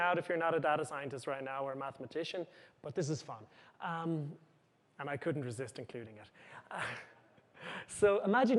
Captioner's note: chuckles